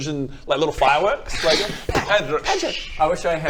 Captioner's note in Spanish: sssh poof